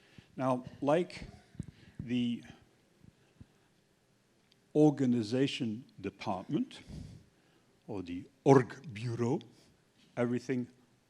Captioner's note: russian